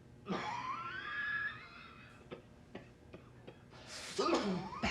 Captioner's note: raspy Coughing